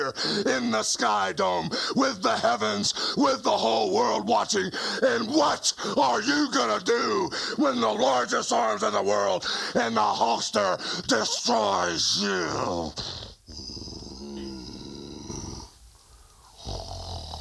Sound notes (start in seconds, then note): 11.3 snorts; 12.3 Ultimate Warrior growling